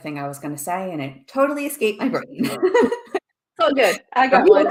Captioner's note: laughs